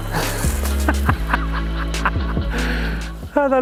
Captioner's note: laughs